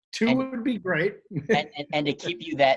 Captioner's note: chuckles